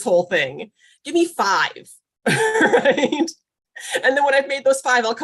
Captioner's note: laughs